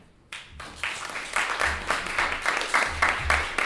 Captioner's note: applauding